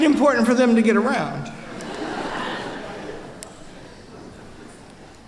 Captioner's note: laughter